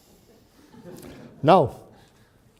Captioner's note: audience laughs